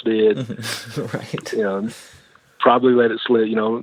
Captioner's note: laughs